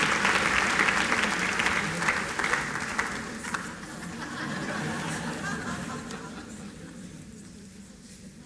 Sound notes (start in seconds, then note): 3.8 laughter